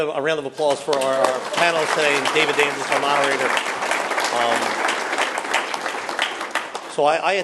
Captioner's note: applause; applause